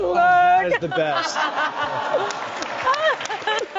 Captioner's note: laughs